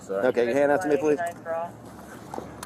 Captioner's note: radio chatter